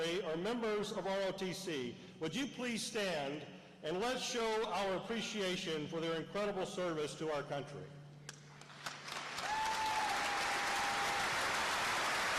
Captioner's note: applause